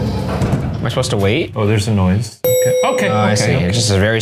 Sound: elevator dings

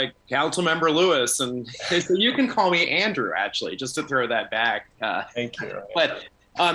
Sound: laughter

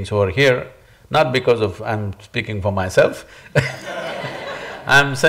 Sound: laughter

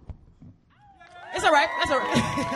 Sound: audience applauds

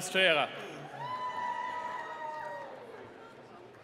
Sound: cheering

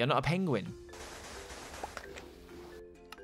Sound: cracking sounds

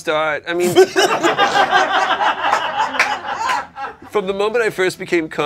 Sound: laughter

